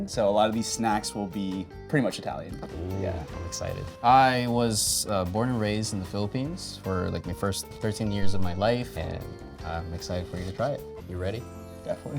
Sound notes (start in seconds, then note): none